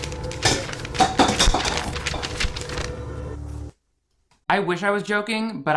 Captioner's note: ominous music; object clanking